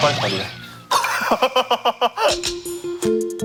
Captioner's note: smiling but crying